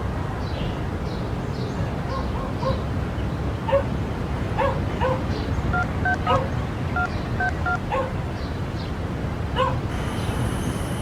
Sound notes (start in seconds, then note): 2.0 dog barking; 7.4 phone buttons beeping